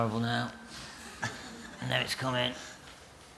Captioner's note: laughter